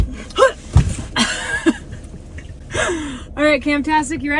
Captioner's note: laughing